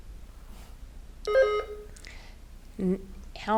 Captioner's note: button buzzing